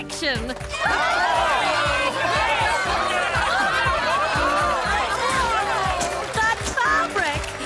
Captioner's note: cheers